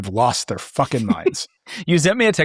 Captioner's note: laughing